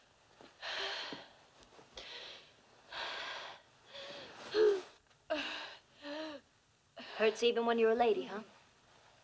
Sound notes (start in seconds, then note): 0.5 breathes heavily